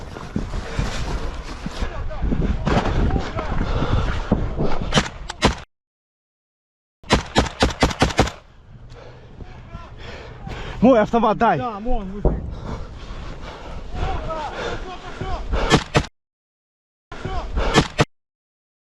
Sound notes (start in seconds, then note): 13.7 russian soldier muffled shouting: "Go, go!"